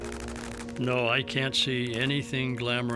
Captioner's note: gunshots